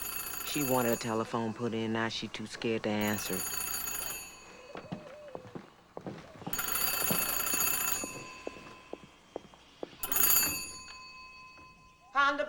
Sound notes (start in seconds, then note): 2.2 phone ringing